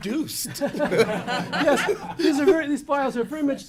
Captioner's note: laughs